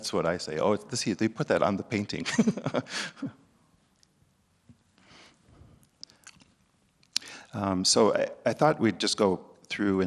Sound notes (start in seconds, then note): 6.4 laughs